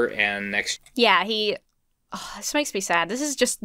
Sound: sighs

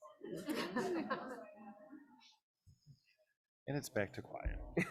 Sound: group laughs

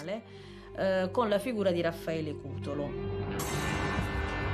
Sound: speaking Italian; upbeat music

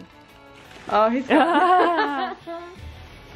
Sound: both laughing

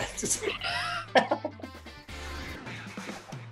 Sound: laughter

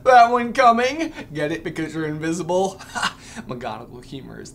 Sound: chuckle

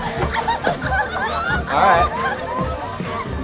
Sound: laughter

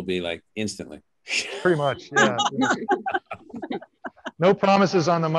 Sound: panelists laughing

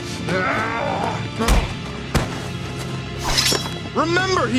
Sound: both grunting

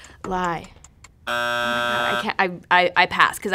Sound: buzzer

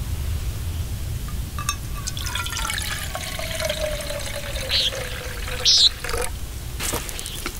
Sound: sound of pouring water and hawk calling

